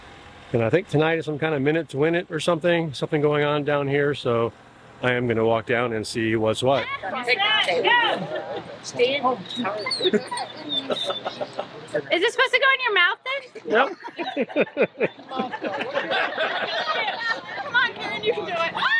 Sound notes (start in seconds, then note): 9.0 dog whining; 13.6 everyone laughing